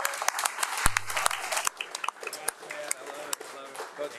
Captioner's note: crowd cheering and applauding